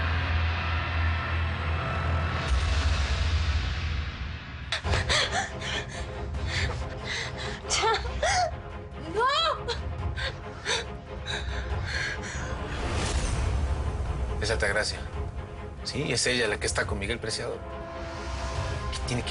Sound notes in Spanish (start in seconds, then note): 4.7 Sollozos